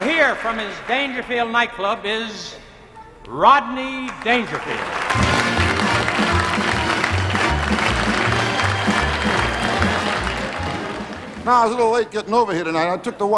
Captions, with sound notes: - Here from his Dangerfield nightclub is Rodney Dangerfield. (orchestral show music) (audience applauding) - I was a little late getting over here tonight.